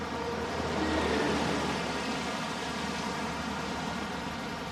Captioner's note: engine zooming